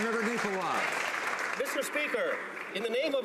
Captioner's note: some Applause